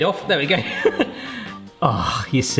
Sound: laughing

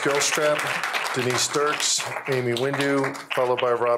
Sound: applause

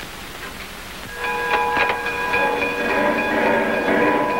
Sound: bell clanging

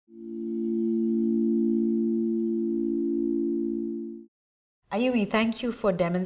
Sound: singing bowl

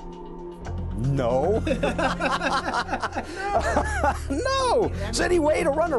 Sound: laughter

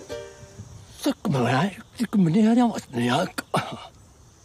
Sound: foreign language

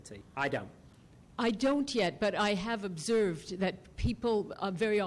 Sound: voiceover

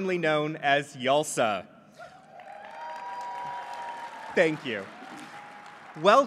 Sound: applause

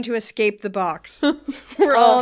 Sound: laughing

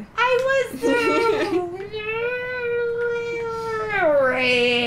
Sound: strangled scream

